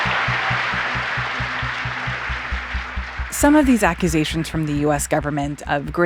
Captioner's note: applause